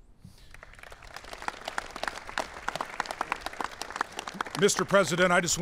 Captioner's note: applause